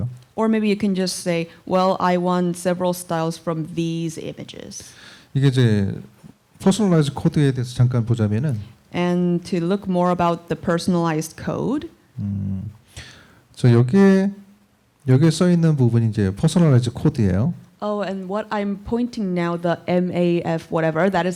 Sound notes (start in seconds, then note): 5.3 speaking korean; 13.4 speaking korean